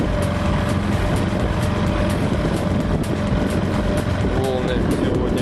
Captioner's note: the sound of an outboard motor is heard